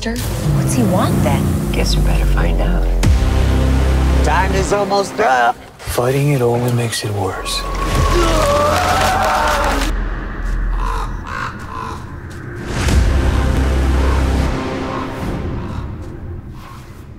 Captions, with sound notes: What's he want, then? I guess we better find out. Time is almost up! Fighting it only makes it worse. [Jared screams] [Crow caws]